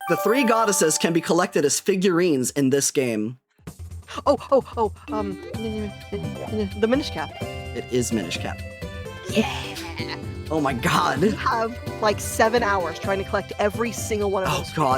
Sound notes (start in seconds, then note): 4.4 gasp; 6.1 stammering